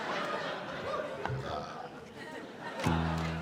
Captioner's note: burps